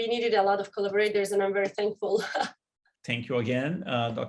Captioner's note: laughter